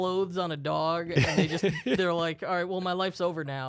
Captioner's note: laughing